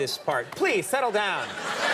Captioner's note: audience chuckling